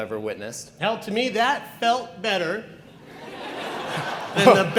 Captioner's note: audience laughs